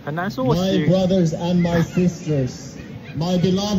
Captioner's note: preacher's voice